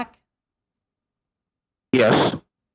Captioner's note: speaking French